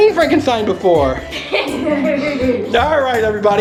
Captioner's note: everyone laughs